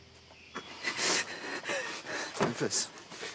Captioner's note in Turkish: Ağlamaya başlar